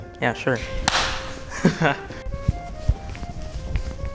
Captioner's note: claps